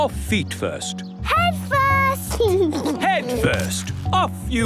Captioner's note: giggles